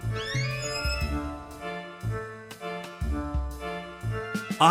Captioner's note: door squeaking